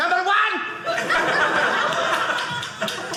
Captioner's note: audience laughing